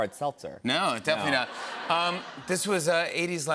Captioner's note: laughter